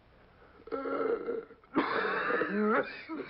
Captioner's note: gasps; coughs